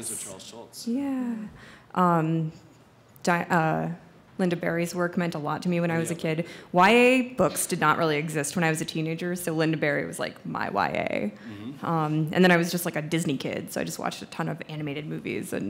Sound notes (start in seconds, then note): none